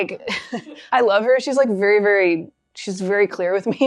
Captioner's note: chuckles